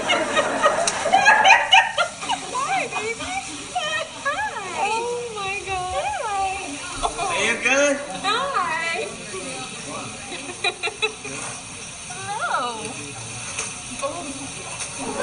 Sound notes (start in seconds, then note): 0.0 laughs; 10.2 laughs